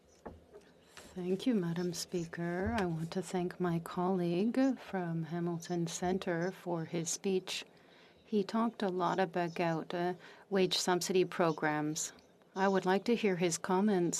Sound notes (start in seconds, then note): 5.1 speaking in French